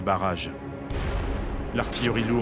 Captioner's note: cannon shot